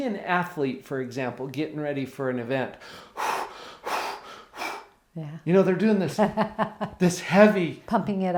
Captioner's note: breathing heavy